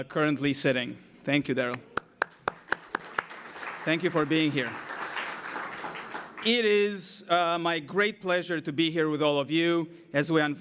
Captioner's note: applause